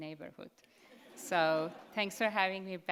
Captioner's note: audience laughs